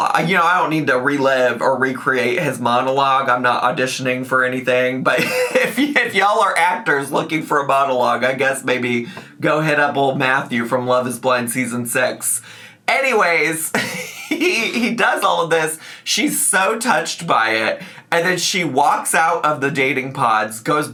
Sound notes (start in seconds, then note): 5.2 laughs; 13.7 laughs